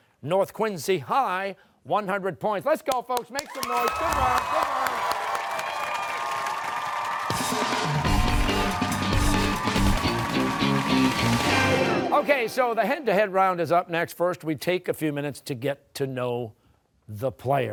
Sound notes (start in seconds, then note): 5.5 cheers and applause